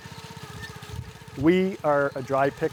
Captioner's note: engine rumbles